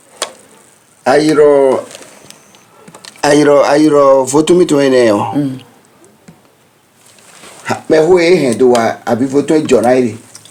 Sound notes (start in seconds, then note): 3.6 stammers